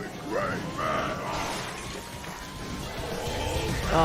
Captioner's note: Hulk yelling